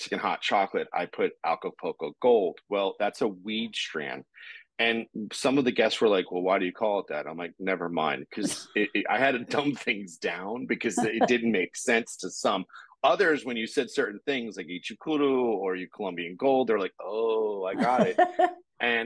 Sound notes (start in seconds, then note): 14.8 speaking Spanish; 17.7 chuckling